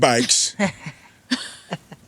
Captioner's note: laughing